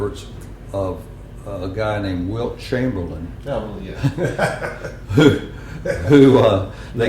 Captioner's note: laughter